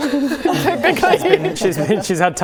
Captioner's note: all laughing